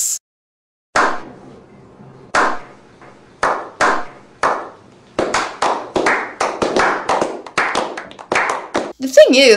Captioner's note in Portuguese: palmas